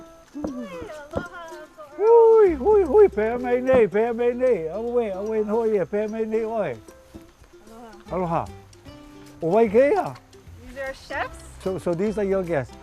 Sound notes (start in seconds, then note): 2.8 speaking Hawaiian; 12.6 speaking Hawaiian